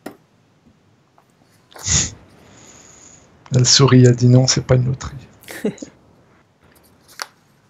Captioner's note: laughs